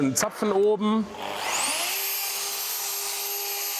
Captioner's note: whirring whir